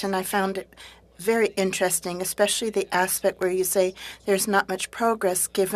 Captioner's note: speaking French